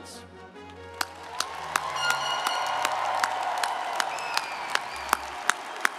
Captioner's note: audience cheering and applauding